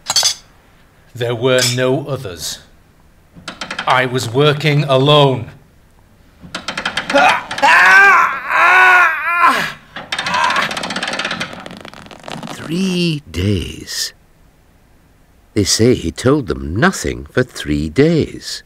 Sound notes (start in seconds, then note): 6.5 the creaking of the rack. Cries of pain